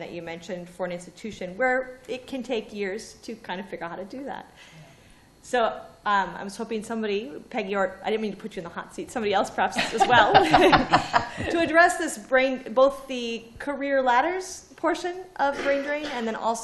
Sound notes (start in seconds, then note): 9.7 laughter